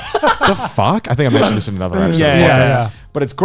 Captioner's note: laughs